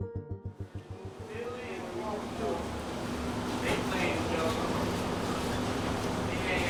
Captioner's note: background talking